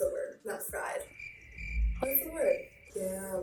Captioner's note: crickets chirping